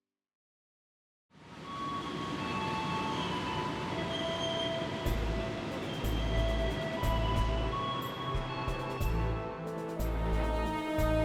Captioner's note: train station bell